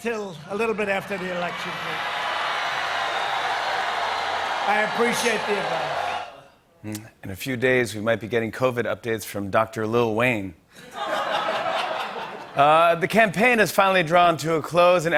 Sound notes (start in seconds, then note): 2.2 cheers and applause; 10.8 laughter